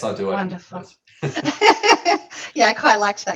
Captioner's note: laughing